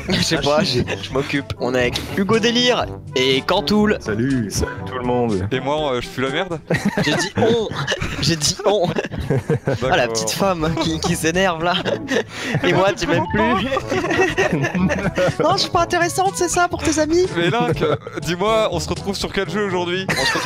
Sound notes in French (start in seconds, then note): 8.3 rire; 14.0 rires